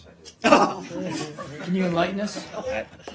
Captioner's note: laughter